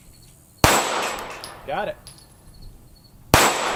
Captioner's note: gunshot